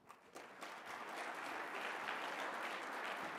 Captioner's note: applause